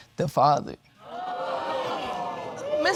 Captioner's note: audience exclaiming